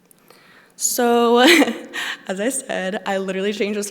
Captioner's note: laughs